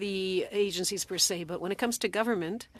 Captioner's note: speaking French